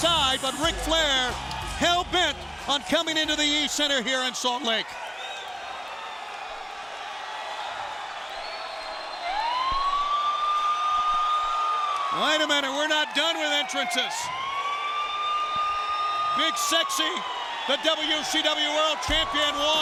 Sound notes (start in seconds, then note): 5.2 audience cheering; 9.3 siren wailing